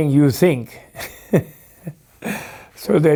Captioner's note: laughs